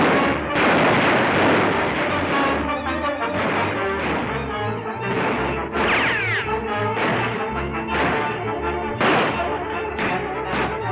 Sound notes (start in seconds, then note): 0.9 lively orchestral music; 5.1 guns firing